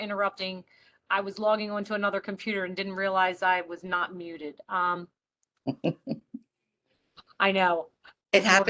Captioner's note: laughter